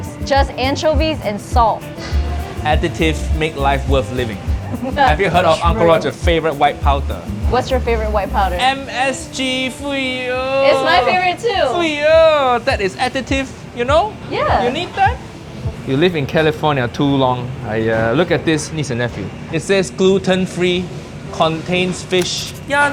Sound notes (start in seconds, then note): 4.5 chuckles